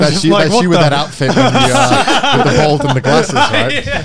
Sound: everyone laughs

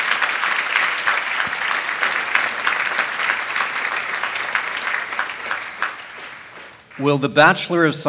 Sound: applause

